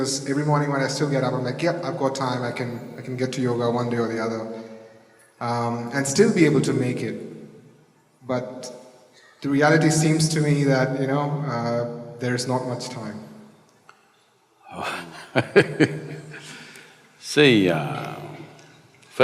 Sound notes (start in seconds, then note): 14.7 Sadhguru laughs